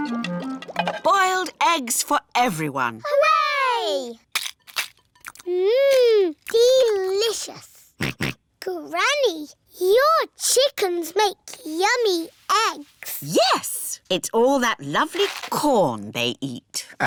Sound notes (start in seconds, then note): 8.0 george oinks